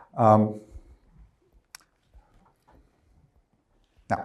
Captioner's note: none